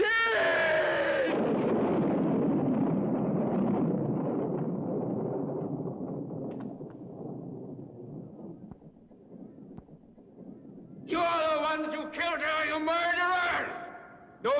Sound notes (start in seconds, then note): 1.4 thunder crashing